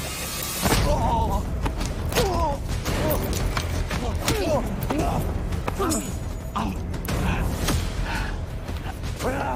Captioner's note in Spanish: Jadeos y quejidos